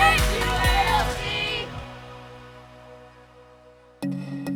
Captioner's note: crowd chattering